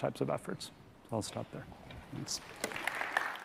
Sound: audience applauding

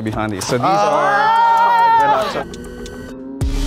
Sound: group cheers

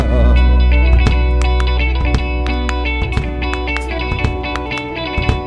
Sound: vocalist clapping

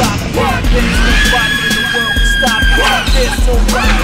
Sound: screams

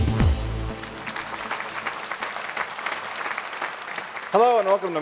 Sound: audience applauds

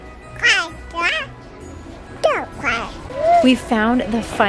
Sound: Blake blabbering

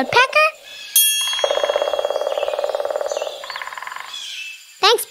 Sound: bell dings; woodpecker tapping

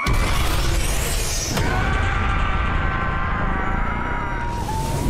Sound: screaming loudly; loud exploding

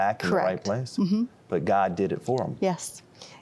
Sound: none

